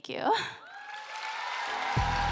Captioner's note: applause